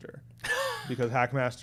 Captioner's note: laughing